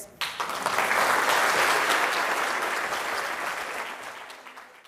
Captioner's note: applause